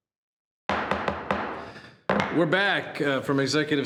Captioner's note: gavel bangs